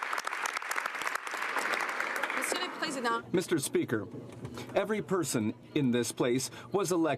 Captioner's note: some Applause